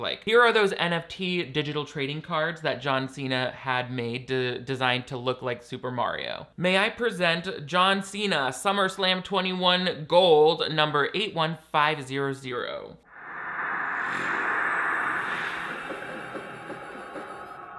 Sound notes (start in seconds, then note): 13.0 swooshing sound